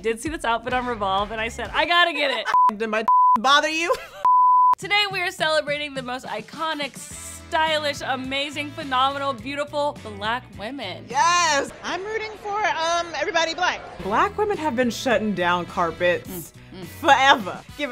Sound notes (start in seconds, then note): 3.0 beep